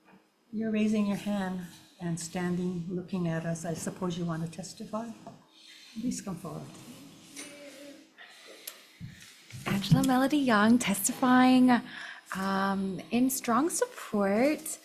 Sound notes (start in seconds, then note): none